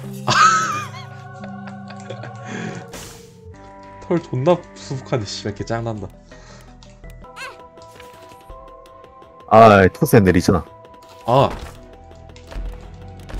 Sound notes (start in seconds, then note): 0.3 laughs; 2.4 inhales